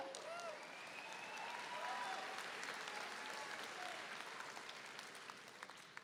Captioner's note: audience cheering and applauding